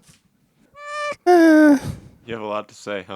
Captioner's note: groans